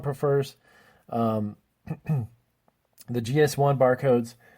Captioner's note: clears throat